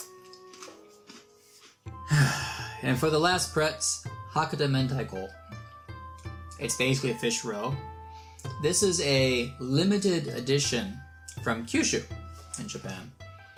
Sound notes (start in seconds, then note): 2.0 sigh